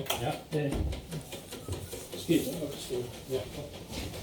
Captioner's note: ticking noise